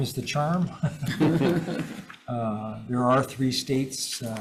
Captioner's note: all laughs